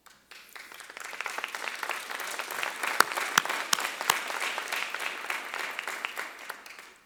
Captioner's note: applause